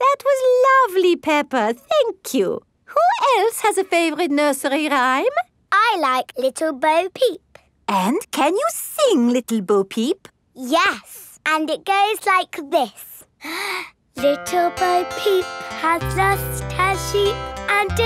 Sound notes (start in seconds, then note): 13.4 inhales